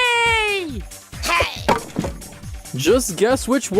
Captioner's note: impact